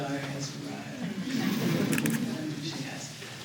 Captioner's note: laughter